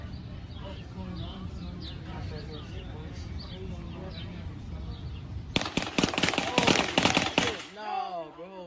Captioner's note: gunfire